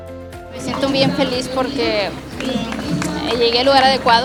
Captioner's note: speaking Spanish